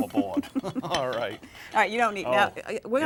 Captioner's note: laugh